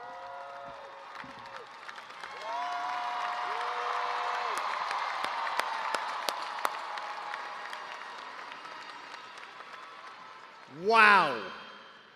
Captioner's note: cheers and applause